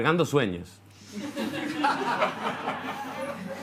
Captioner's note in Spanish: Risas